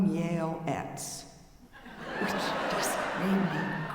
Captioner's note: audience laughing